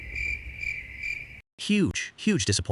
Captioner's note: RC car noise / Crickets chirping